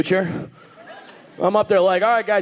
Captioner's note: audience laughing